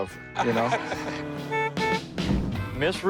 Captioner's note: laughs; horn beeping